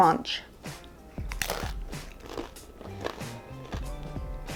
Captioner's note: chewing sounds